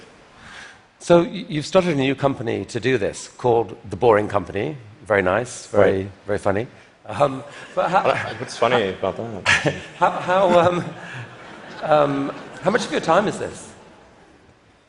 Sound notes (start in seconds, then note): 7.6 laughter